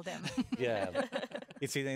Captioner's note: laughing